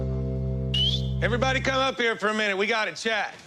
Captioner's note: whistles